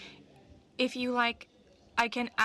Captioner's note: speaking french